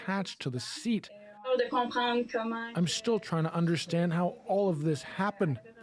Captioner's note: speaking French